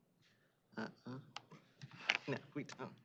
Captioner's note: indistinct chatter